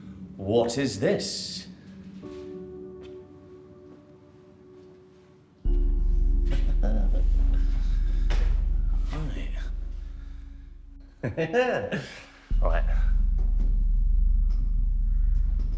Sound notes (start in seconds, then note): 2.6 haunting music; 6.6 Danny chuckles; 11.2 Danny chuckles